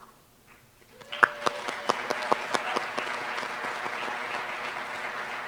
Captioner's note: applause